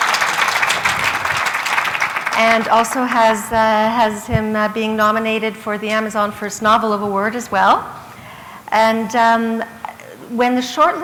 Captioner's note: applause